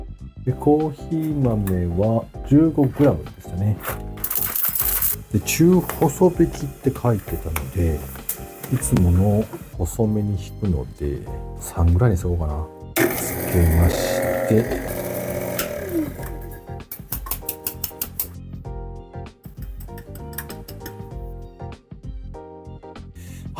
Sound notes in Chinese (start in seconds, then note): 4.1 咖啡豆掉落的聲音